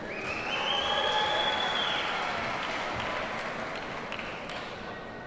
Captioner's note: audience cheers and applauds